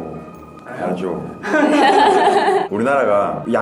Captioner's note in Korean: 웃음